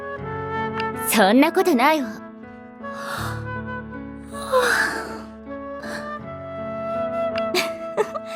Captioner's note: yawn~~